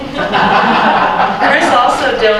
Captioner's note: laughter